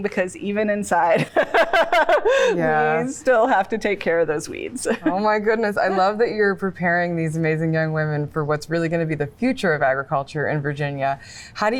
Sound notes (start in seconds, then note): 1.3 laughs